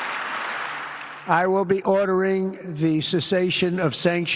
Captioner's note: applause